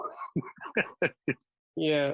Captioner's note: laughing